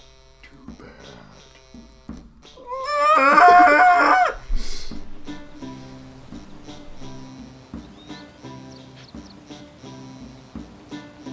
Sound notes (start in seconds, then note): 0.1 Voice from the depths of Hades; 2.5 moaning of the damned